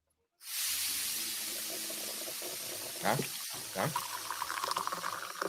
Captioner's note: coffee pouring